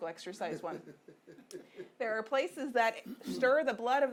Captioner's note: audience member laughing